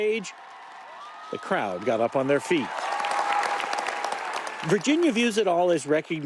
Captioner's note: cheers and applause